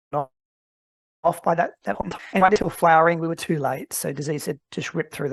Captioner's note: audio distorts